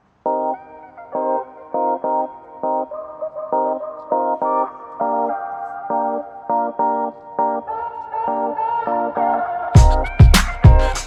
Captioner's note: music playing and phone rings